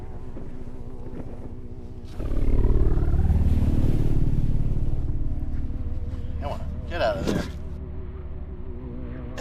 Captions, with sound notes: (air quavering) Come on, get outta there.